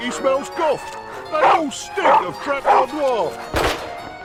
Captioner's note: dog barking; gunshot booming